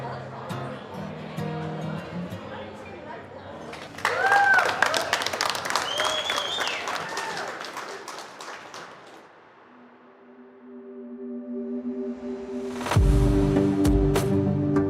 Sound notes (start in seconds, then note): 3.8 audience cheering and applauding; 9.6 inspirational electronic music